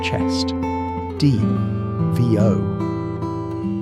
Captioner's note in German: Off-Stimme